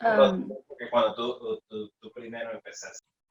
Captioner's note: background talking